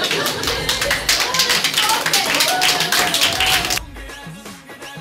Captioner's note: audience applause